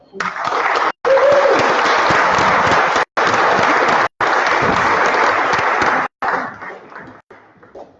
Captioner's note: applause